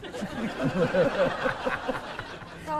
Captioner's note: laughter